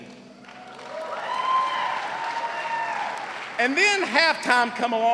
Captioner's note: cheers and applause